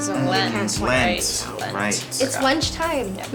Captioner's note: all murmur in agreement